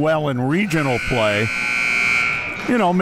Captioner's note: clock buzzes